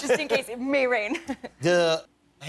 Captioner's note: laughter